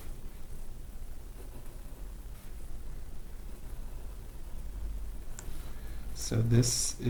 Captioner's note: writing on Paper